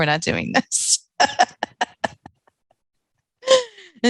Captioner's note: laughing